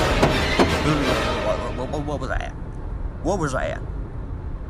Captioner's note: truck honking; stammers